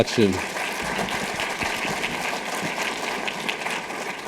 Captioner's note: audience applauding